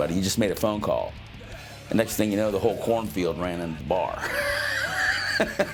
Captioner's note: laughs